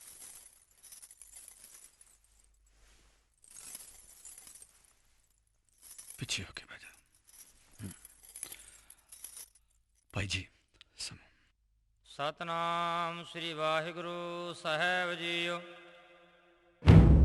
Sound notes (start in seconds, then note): 13.0 chanting